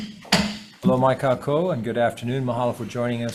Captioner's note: speaks in foreign language